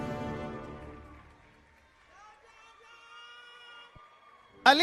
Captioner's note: applause